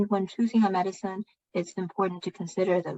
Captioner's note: speaking chinese